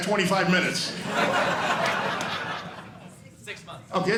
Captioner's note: audience laughing